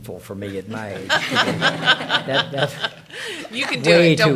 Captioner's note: attendees laughing